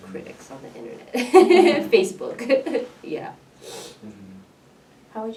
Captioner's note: laughs